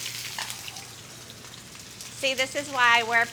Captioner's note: sizzling